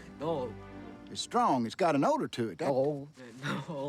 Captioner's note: laughs